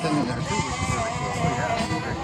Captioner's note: chatter